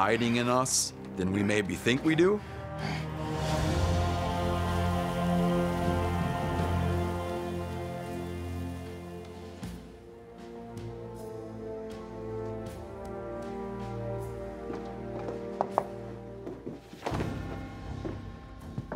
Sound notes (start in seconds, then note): 15.3 knocks